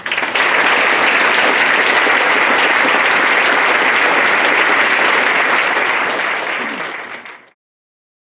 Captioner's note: applause